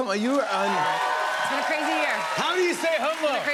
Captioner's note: cheers and applause